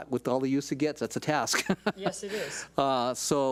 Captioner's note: laughs